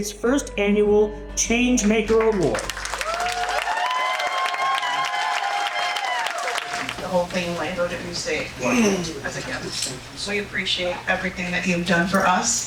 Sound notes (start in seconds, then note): 3.7 audience applauding